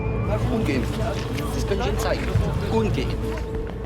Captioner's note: speaking German